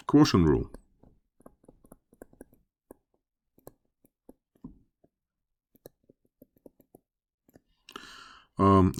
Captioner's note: writing